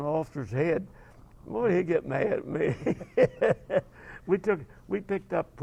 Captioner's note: laugh